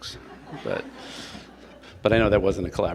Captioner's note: attendees laugh